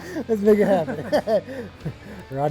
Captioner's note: laughs